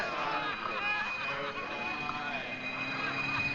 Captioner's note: police sirens